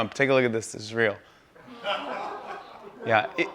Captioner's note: laughter